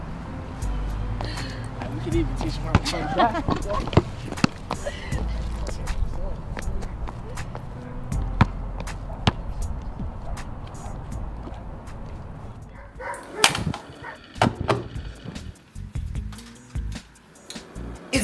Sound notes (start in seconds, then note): 2.8 Mary laughs; 8.0 gentle music; 16.6 upbeat music